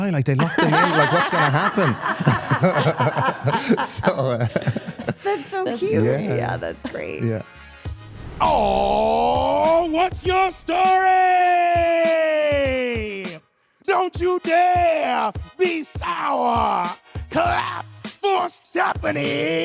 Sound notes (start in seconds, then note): 1.9 participants laugh